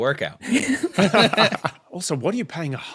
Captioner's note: group laughing